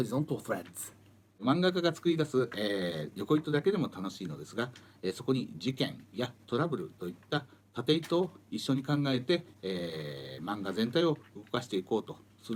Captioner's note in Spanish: Hablando en japonés